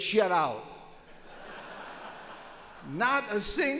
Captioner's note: audience laughs